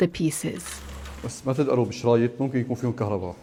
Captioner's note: speaking Arabic